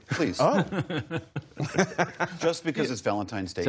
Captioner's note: laughter